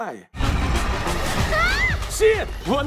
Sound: exhilarating music playing; screams

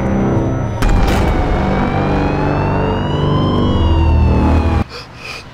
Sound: sirens

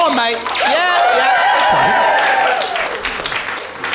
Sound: audience applauds

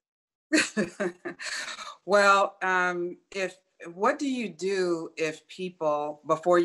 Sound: laughs

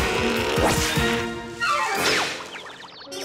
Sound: none

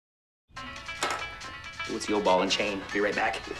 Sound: banjo pickin' ringtone

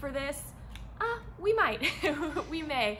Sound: chuckles

